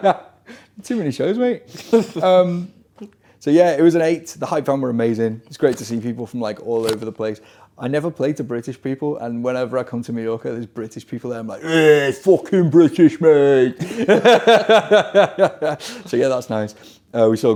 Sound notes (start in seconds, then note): 11.6 groaning; 15.2 laughing